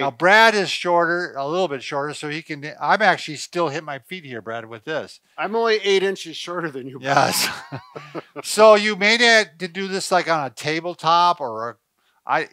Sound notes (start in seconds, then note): 6.5 laughing